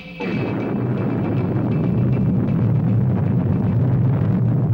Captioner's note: engines whirring softly